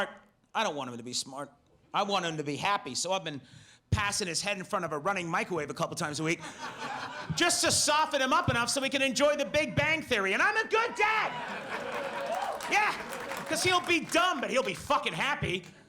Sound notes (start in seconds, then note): 10.8 audience laughs